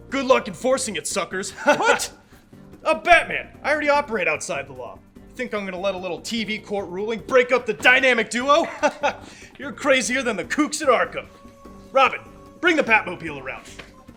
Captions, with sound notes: Good luck enforcing it, suckers. (Batman laughs) - What? - I'm Batman. I already operate outside the law. You think I'm gonna let a little TV court ruling break up the Dynamic Duo? (laughs) You're crazier than the kooks at Arkham. Robin, bring the Batmobile around.